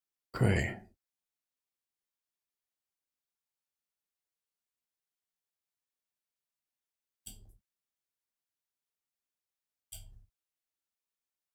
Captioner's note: silence